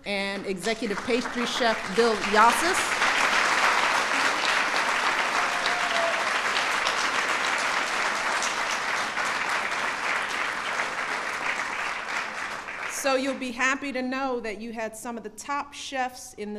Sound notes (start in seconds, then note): 2.8 applause